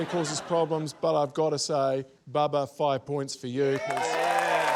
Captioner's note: cheering, applause